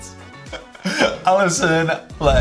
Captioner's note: chuckles